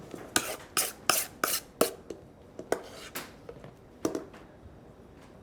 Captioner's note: spoon scrapes on bowl